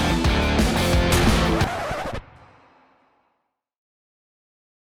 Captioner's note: record scratching